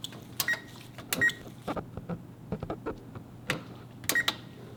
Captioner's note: oven beeps